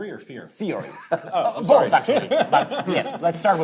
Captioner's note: panelists laughing